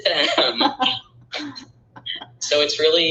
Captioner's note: laughing